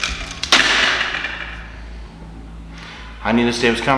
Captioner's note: loud clack